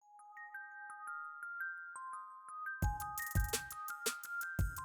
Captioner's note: calm chime sound; upbeat music